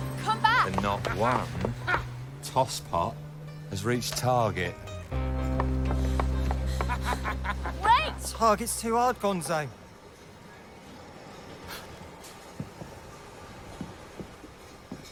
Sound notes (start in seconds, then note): 5.5 panting; 5.9 laughs